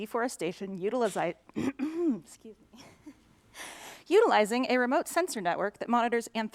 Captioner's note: clears throat